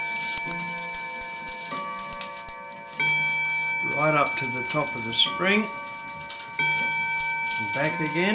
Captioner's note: clock chimimg